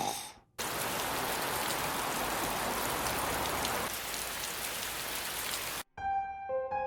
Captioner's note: snoring; rain